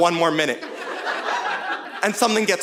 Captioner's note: audience laughing